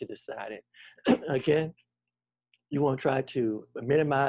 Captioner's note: clears throat